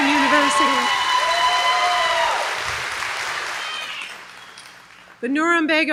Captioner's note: applause